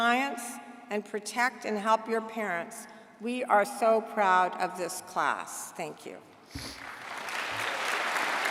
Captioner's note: applause